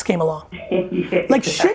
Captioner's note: laughs